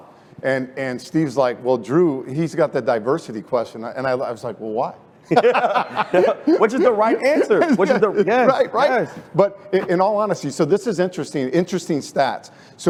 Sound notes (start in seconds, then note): 5.2 laughter